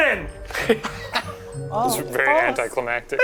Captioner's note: all laugh